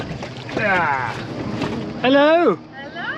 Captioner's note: grunting